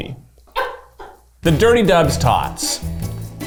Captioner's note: crew laughs